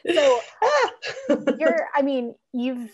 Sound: laughs

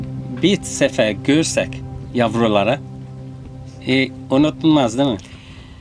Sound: speaking in foreign language

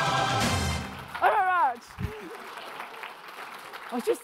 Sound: audience clapping

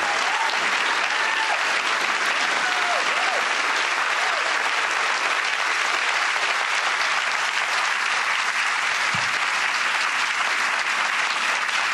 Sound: applause

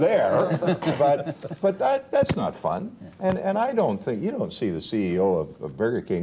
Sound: laughter

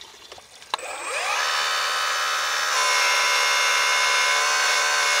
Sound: track hoe humming

